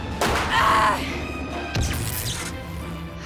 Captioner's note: Riley groans; electrical boom; electrical hissing